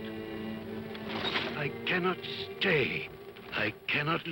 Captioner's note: chains rattle